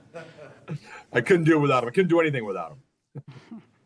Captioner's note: laughter